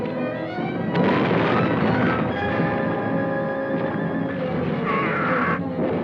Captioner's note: grenade explodes; adventurous orchestral music